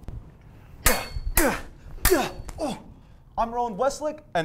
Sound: swords clashing

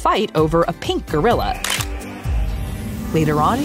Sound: camera clicking

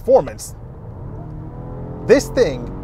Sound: Volvo engine roaring

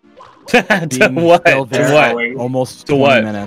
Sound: laughter

